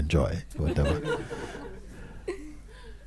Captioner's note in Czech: smích